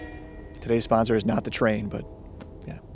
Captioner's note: train noises